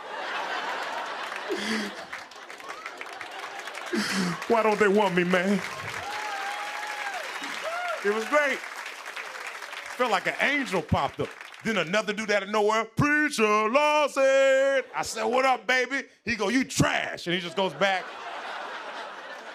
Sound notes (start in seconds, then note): 0.0 laughter; 6.3 laughter and applause; 17.4 laughter